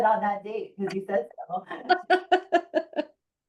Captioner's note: laughing